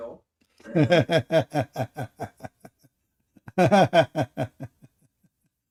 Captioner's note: Ketawa